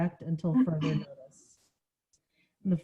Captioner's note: coughing